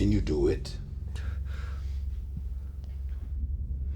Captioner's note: Sam, breathing heavier